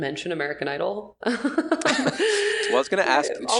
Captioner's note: laughing